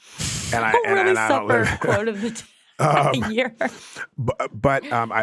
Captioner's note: giggles